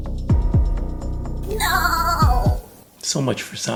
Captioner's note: sad goat sound effect